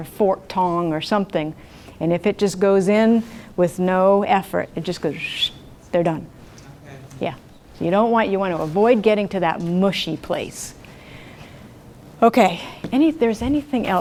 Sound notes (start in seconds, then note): 5.6 makes a whistle sound